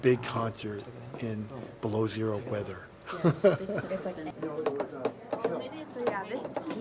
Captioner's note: laughing